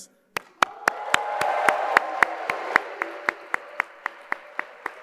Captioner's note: audience applauding